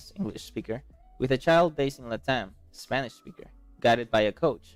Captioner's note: spanish speaker